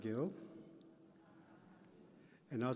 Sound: audience chatter

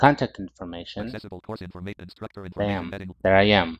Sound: screen reader voice

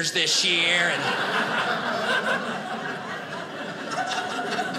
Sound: audience laughing

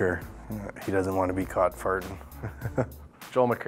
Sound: laughs

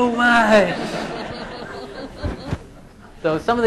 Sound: laughing

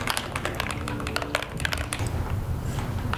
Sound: typing

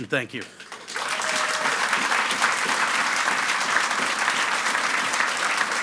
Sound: audience applauds and cheers

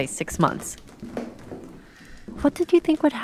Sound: footsteps

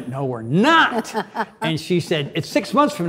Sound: Cynthia chuckles; Cynthia laughs

